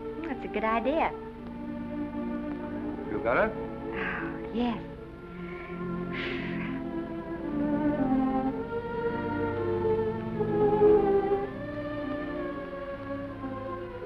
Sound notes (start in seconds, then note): 5.3 Esther exhales